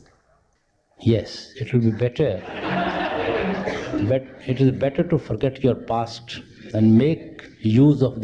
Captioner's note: laughter